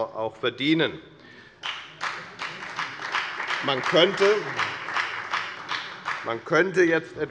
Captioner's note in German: Beifall bei der FDP und der CDU